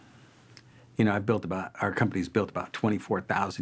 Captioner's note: deep sighing